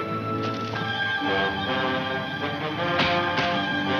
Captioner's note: dramatic music; stones shuffling; fists smacking